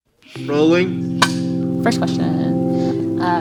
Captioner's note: snap